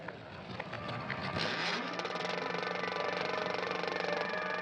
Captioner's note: film projector clicking